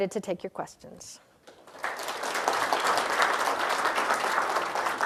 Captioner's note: applause